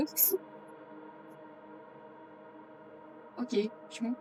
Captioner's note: A silent reply